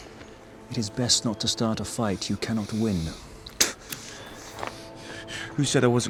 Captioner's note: spits